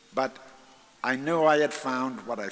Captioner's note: none